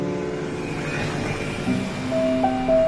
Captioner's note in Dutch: verkeersgeluiden